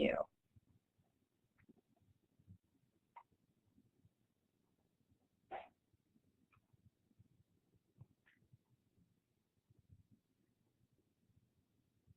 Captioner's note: silence